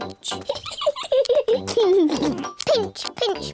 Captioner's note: peppa and george giggle